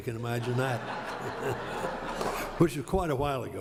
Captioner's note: laughter